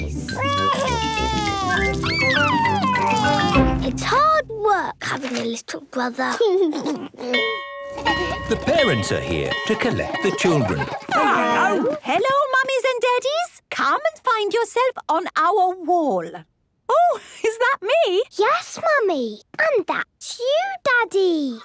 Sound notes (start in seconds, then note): 0.4 crying; 6.5 giggles; 7.4 bell ringing